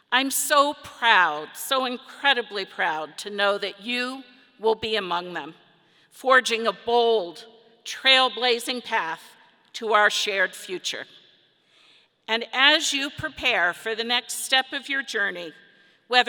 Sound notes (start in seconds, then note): none